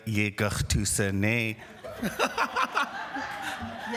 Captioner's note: speaking indigenous language